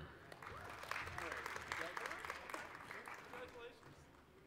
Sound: applause

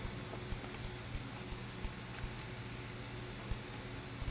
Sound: clicking

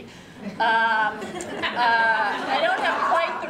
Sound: laughter

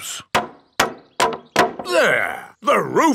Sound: hammering

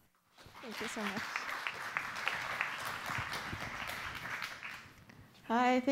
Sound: applause

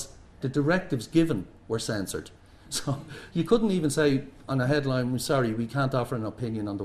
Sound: laughs

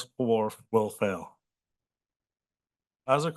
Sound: pause

